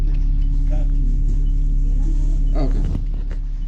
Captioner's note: people chattering